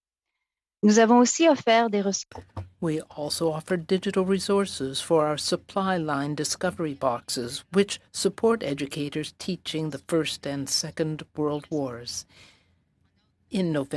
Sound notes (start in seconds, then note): 5.5 speaking French